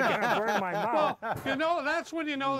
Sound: laughter

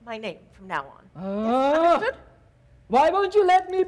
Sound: Sharik softly groans

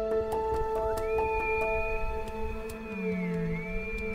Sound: elk bugle

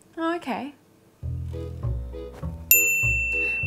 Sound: beep sounds

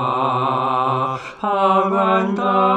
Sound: collective gasp

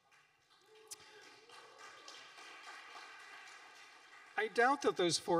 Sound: audience applauding

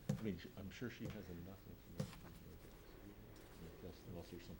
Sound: speaking faintly

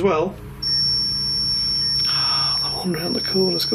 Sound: high pitched beep

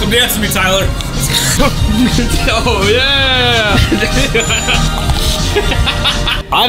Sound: laughter

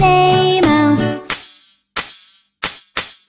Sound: clap

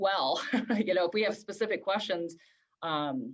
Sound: laughter

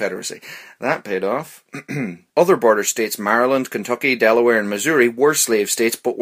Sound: ahem

